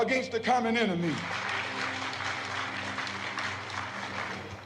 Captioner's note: applause